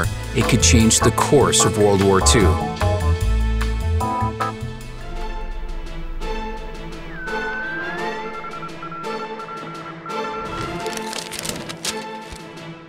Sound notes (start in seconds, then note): 7.0 shortwave radio transmits Morse code beeps